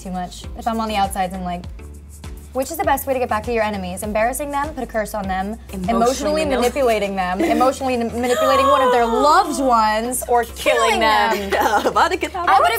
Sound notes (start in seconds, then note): 7.3 laughter; 8.3 Sofia gasps; 11.3 China laughs